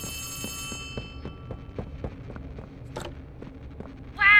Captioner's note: footsteps